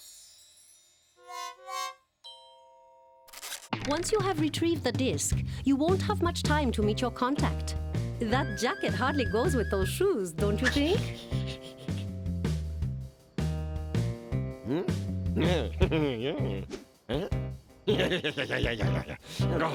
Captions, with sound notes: ONCE YOU HAVE RETRIEVED THE DISK, YOU WON'T HAVE MUCH TIME TO MEET YOUR CONTACT. THAT JACKET HARDLY GOES WITH THOSE SHOES, DON'T YOU THINK? (laughs) MM? (chuckles) YEAH! YEAH! YEAH! YEAH! YEAH!